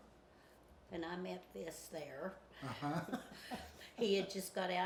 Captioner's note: laughs